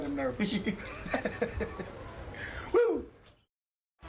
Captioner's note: both laughing